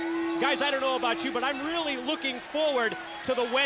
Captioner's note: bell ringing